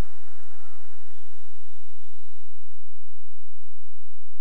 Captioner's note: whistling